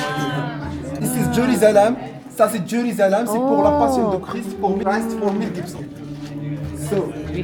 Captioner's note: speaking French